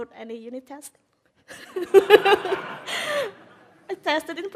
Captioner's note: audience laughs